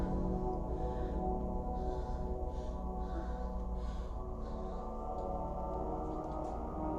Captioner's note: moaning continues